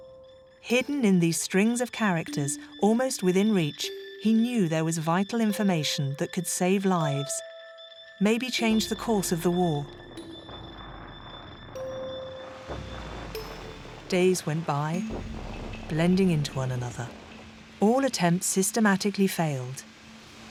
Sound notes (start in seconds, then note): 10.8 gunfire blasting; 20.2 rain pattering